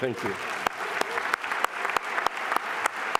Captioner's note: applause